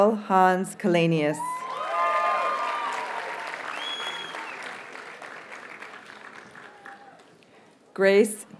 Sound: audience cheers and applauds

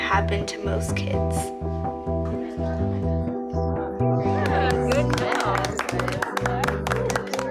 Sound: applause

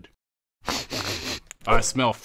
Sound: sniffing

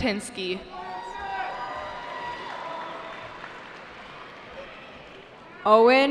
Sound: cheering

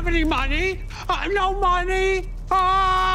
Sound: man screams; continues screaming; screams

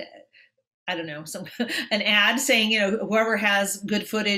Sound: chuckles

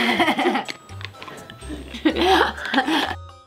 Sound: laughing

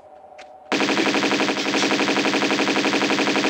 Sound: bratatata

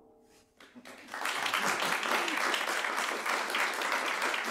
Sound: audience applauding

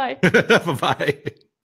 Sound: laughs

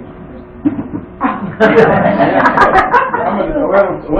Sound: laughter

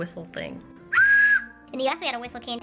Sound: whistling

